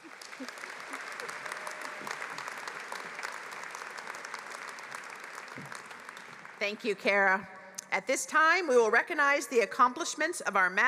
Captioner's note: applause